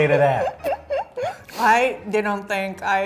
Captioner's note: laughing